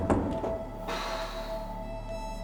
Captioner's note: sighs